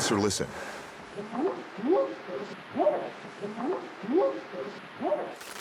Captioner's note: whooping sound